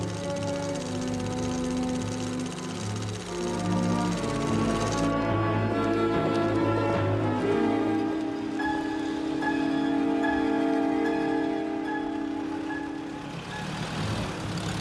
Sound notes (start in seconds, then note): none